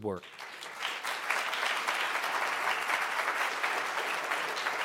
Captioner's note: applause